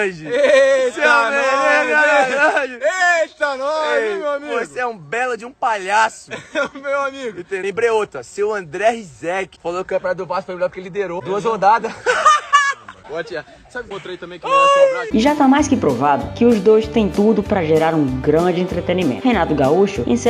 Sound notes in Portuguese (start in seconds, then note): 6.2 risadas; 11.2 Gabigol rindo